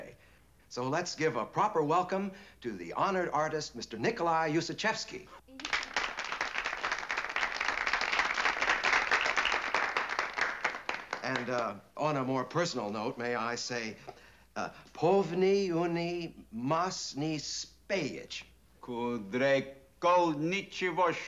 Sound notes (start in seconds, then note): 5.5 applause; 13.5 speaking russian; 18.6 speaking russian, forcefully